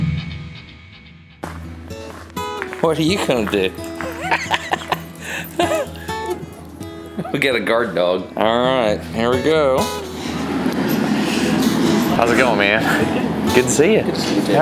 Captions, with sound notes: What are YOU going to do? (Laughs playfully at Odie) We've got a guard dog. All right, here we go. (Sounds of glass furnace) How's it going, man? Good to see you!